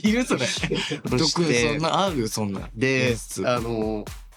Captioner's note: thump